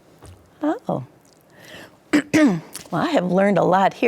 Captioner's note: clears throat